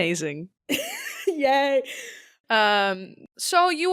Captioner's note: laughing